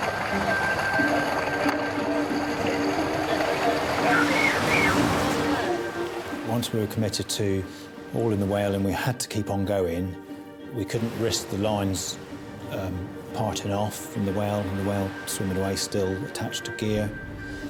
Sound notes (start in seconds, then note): 0.0 tense music; 0.0 water sloshing; 2.0 tense music continues; 2.0 water sloshing; 3.6 blowhole screeches